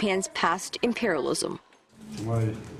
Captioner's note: Korean